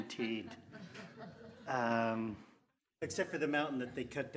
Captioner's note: crowd laughing